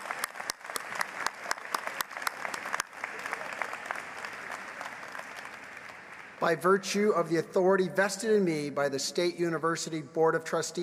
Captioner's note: applause